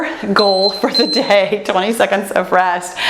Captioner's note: timer beeps